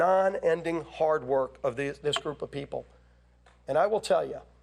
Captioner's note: none